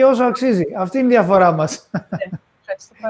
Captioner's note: γέλια